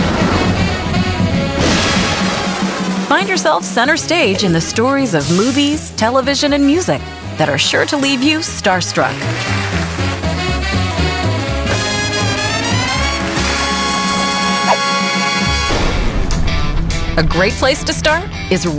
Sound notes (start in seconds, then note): 9.2 applause; 10.7 upbeat swing music; 13.3 applause; 16.3 rock music